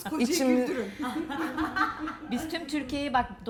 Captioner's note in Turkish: Gülüşmeler